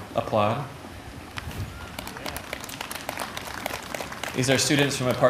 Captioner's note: applause